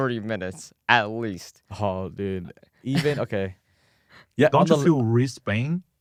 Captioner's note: laughs